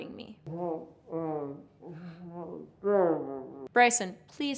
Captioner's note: grumbling